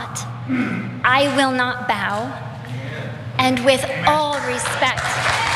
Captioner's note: applause